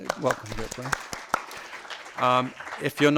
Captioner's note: audience applause